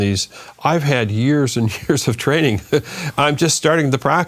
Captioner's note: chuckling